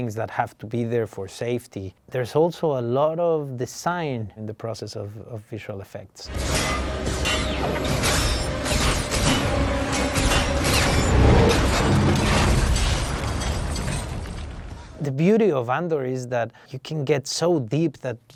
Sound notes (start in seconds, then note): 6.2 dramatic music; 6.3 metal clanging